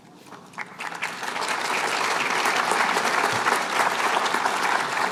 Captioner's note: applause